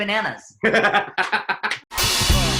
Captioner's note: laughs